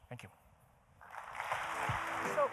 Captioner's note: applause